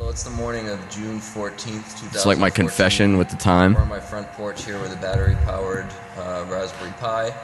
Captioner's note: off mic